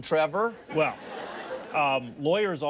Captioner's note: audience laughs